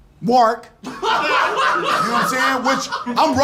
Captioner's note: laughter